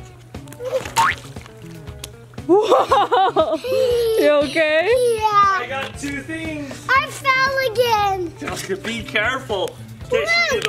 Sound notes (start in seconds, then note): 0.8 boing; 2.4 laughs